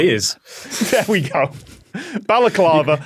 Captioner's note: both laugh